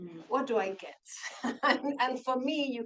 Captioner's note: laughs